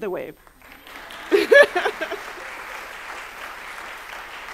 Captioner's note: applause